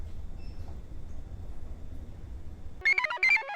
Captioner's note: device beeps; computer chirps